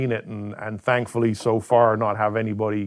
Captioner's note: knocking on wood